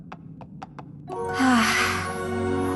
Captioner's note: sigh